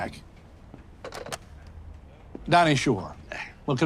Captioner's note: phone clicks